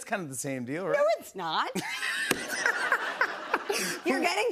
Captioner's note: laughter